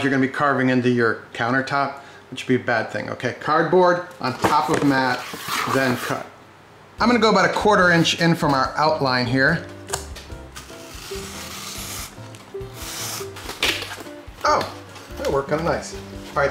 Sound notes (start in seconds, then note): 10.7 soft guitar music; 12.4 cardboard ripping